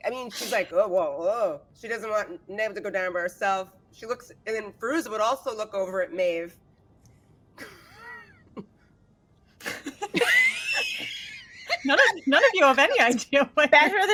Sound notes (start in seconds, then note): 9.6 laughing